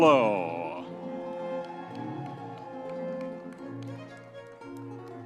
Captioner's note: audience members cheering